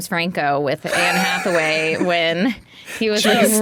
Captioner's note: Dan laughing